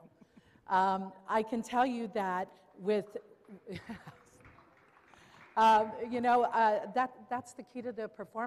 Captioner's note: applause